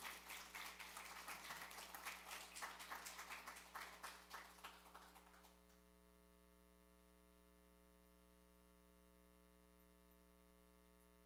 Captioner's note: applause